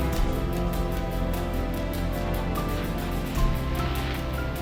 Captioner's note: water splashes